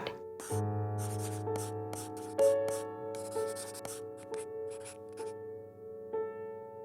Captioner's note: gentle music; pencil scratching